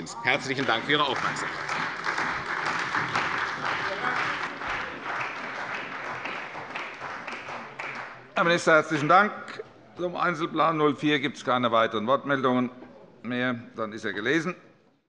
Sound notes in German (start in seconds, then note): 3.2 Beifall bei der CDU und dem BÜNDNIS 90/DIE GRÜNEN